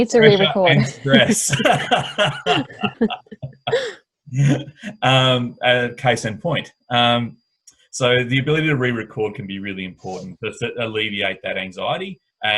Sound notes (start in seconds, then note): 3.3 both laughing